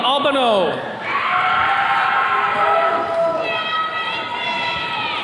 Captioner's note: attendees cheering